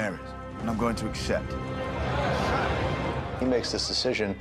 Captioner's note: crowd muttering